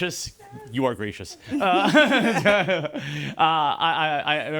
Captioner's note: laughing